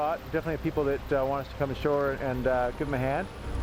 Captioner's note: voiceover